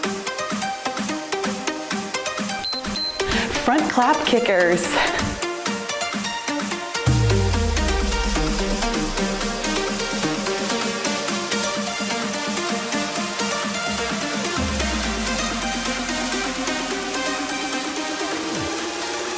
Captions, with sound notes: (timer beeps) Front clap kickers. (cheerful music)